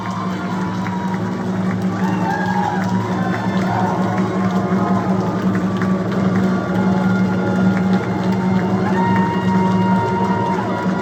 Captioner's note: final chords. Raucous cheering and applause!